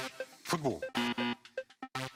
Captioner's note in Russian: пи-пи